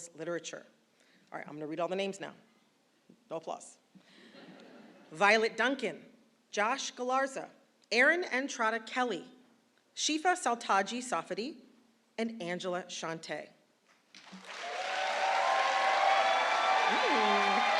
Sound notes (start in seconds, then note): 14.1 applause